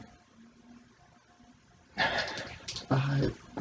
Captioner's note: sighs